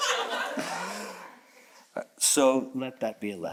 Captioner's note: audience chuckles